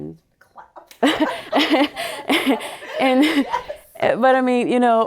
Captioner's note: laughing lightly